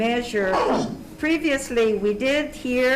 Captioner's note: coughs